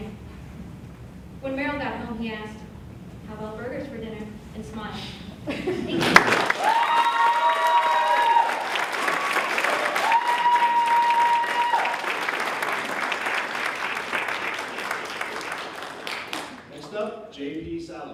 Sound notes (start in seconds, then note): 6.0 applause